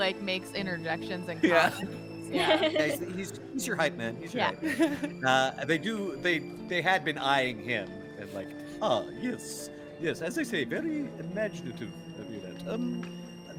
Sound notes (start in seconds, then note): 1.4 Calla laughs; 4.5 Cornette laughs